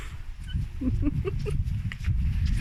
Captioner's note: laughing